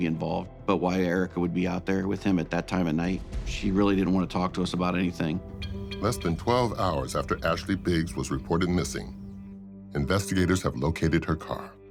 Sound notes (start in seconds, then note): 5.2 birds chirping; 5.3 tense music